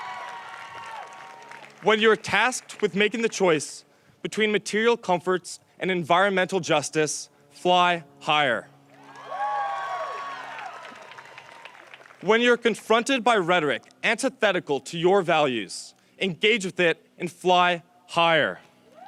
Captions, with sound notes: When you are tasked with making the choice between material comforts and environmental justice, fly higher. (audience cheers) When you are confronted by rhetoric antithetical to your values, engage with it and fly higher.